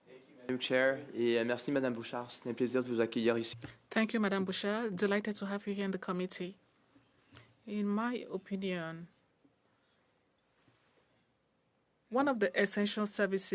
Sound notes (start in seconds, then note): 6.9 speaking French